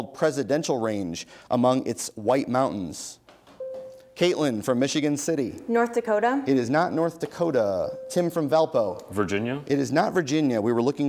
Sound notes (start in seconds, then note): 3.6 bell rings